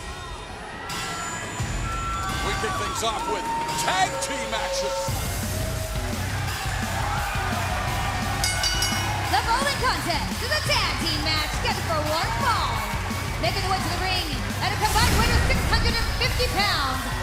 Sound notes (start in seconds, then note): 6.7 cheers and applause; 8.4 bell ringing